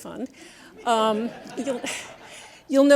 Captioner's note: audience laughs